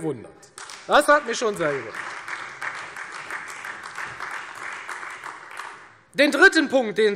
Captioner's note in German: Beifall Freie Demokraten und vereinzelt AfD